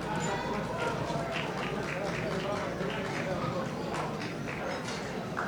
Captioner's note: audience applauding